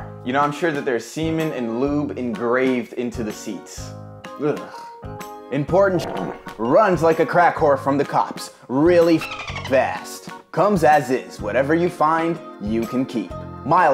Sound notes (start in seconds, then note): 4.7 shudders; 5.8 farting; 9.2 dolphin sounds